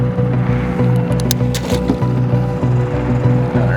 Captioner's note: water splashing; fastener clicking